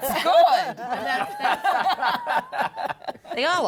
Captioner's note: laughter